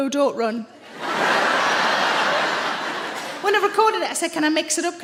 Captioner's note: audience laughs